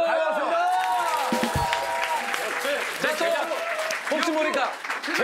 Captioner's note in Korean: 박수